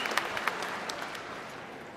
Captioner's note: applause